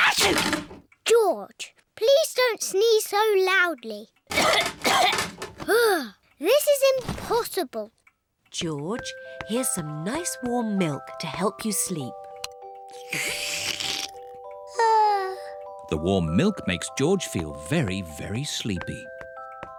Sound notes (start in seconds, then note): 0.0 sneezes; 4.3 coughs; 15.0 yawns